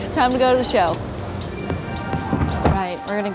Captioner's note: chiming